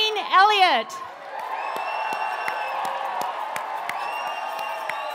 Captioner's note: audience cheering